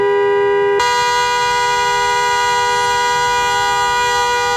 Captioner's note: horn continues